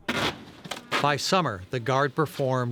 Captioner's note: tape ripping